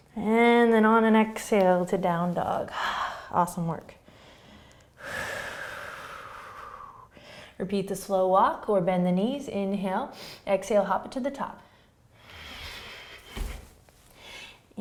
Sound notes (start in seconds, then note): 4.0 breathing